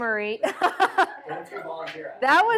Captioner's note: laughter